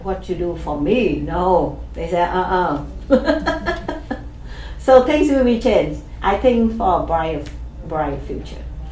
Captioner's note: laughs